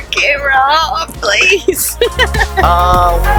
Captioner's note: laughs; lively music